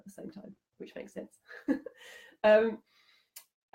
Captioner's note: giggling